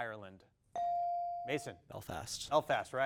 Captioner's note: bell dings